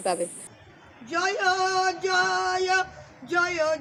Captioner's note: chanting